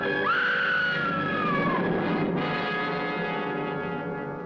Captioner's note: woman screaming loudly